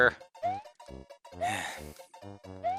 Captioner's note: sigh